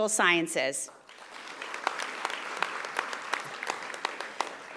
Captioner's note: audience applauding